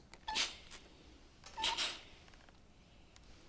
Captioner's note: iron clanks